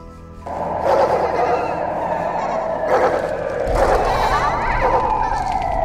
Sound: loud city noises

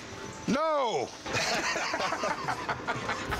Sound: chuckling

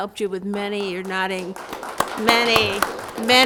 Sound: audience applauds

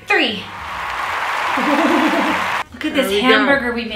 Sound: applause from crowd

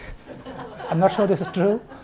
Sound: audience laughs

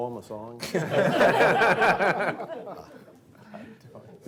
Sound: laughing

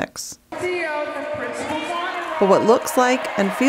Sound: chatter

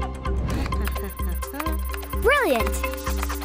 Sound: humming

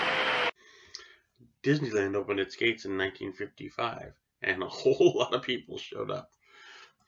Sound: laugh

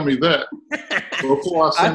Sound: laughs

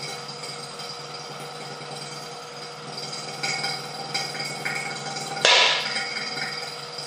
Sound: sound of pump; sound of balloon bursting at 02:16

